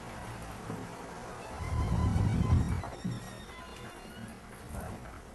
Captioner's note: door creaking